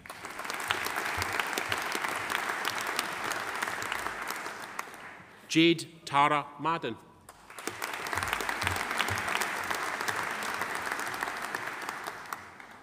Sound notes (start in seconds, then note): 0.0 audience applauding; 7.3 audience applauding